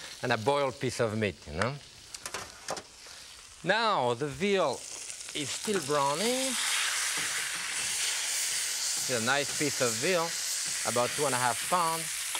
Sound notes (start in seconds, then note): 8.1 veal searing